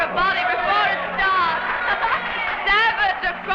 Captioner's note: crowd cheering and applauding